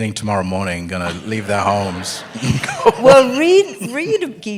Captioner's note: laughter